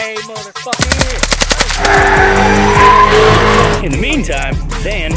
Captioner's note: gun shots